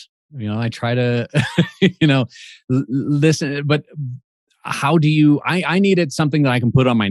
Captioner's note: laughs